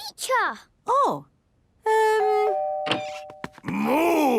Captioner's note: doorbell ringing